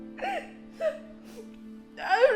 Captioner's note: choking noise; sniff